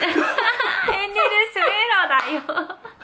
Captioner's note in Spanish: Risas; mas risas